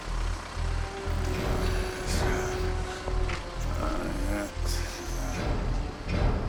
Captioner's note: muttering